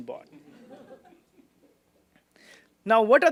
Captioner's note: laughter